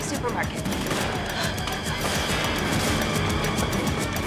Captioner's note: gasps